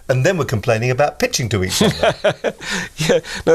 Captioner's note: laughing